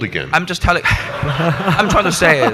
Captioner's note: audience laughs